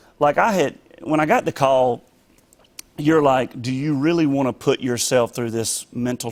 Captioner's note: none